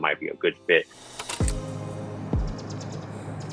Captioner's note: shutter clicking; upbeat music; birds chirping